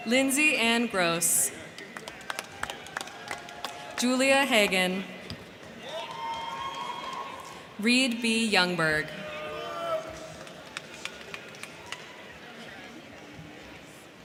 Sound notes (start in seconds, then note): 1.5 crowd clapping; 1.9 crowd cheering; 5.8 crowd clapping; 9.1 crowd cheering; 10.0 crowd clapping